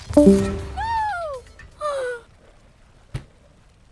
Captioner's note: sigh